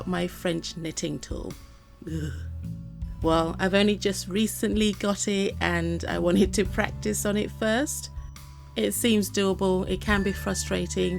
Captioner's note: ugh